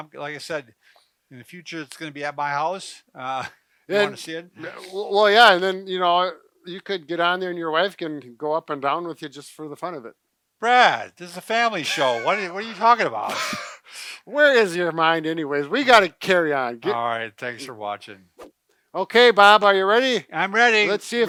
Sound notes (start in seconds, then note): 11.8 laughs